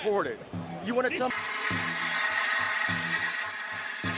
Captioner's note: sound of police radio